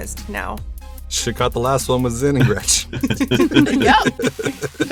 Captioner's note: laughs